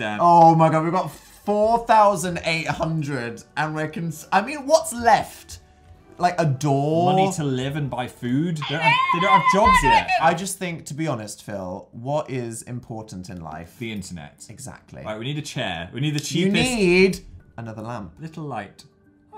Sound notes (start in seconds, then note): 8.6 screeching